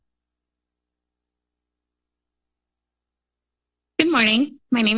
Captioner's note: silence